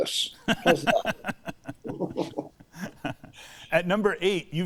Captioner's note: both laughing